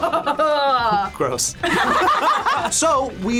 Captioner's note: group laughs